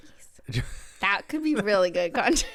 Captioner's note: laughs